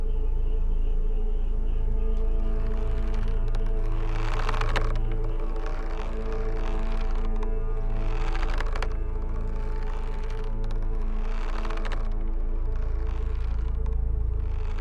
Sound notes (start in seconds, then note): 2.6 rope creaking; 2.6 dramatic music